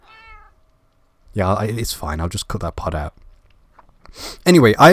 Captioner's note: meow